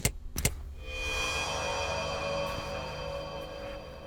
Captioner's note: lights clicking; mysterious music